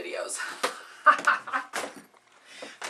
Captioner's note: laughing